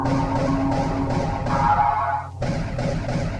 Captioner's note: gun firing